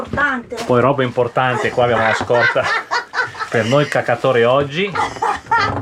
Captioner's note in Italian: risate